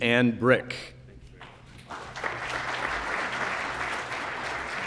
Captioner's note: applause